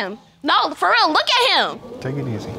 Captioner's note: audience exclaiming